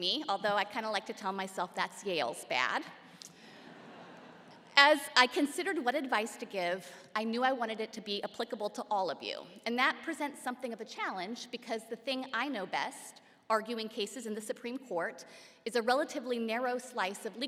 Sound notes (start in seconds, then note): 3.6 laughter